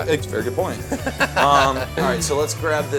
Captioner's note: laughs loudly